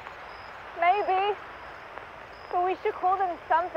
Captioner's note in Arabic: زقزقة الرشاشات